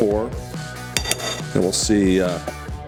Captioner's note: spoon clinks